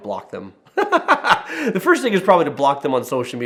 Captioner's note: laughing